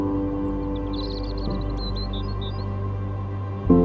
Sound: birds chirping

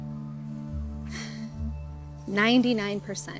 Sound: exasperated sigh

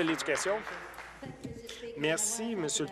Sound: applause

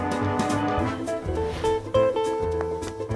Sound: whooshing

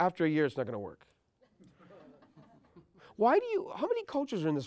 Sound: laugh

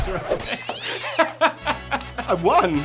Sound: laughter

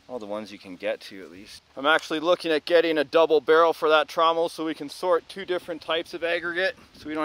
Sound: none

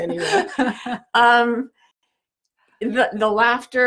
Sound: laughs

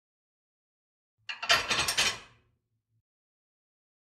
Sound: sound of plate

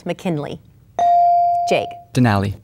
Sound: bell dinging

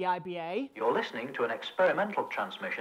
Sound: radio Announcer

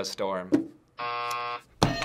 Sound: buzzer

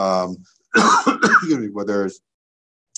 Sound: coughs

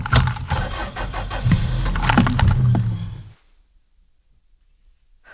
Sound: car engine starts

